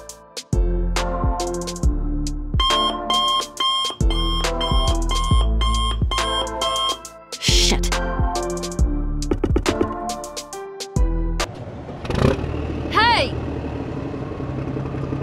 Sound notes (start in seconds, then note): 2.6 alarm beep